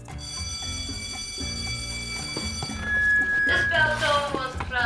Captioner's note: bell rings